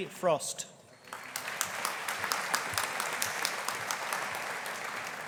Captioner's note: audience applauding